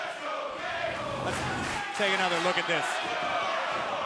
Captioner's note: crowd cheering